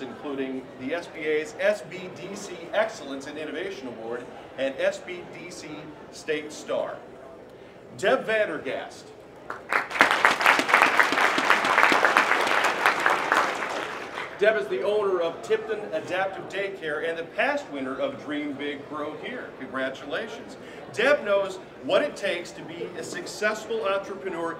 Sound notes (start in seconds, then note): 9.4 applause